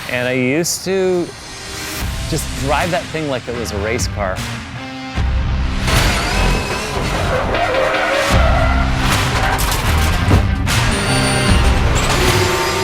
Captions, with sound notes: And I used to just drive that thing like it was a race car. (engine starts running) (mellow music)